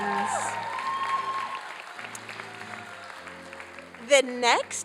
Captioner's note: applause and cheering